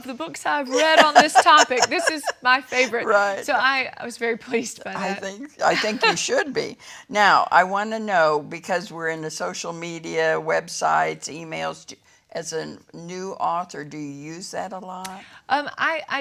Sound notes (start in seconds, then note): 0.7 laughs